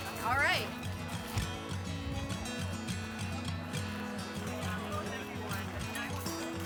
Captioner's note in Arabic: ثرثرة الناس; عزف جيتار هادئ